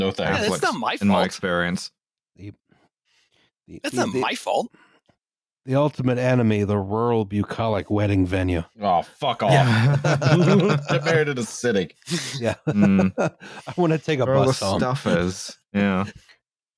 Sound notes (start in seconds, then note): 9.4 laughter; 13.3 laughs